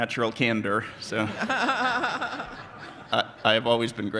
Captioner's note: audience laughs